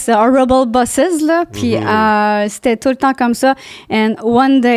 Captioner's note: in french